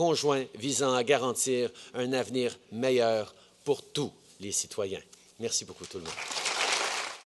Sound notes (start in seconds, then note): 5.8 applause